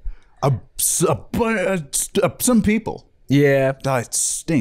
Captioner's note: stammering